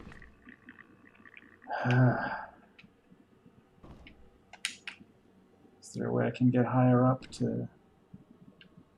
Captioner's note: sighs